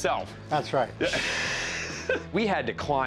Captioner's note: laughter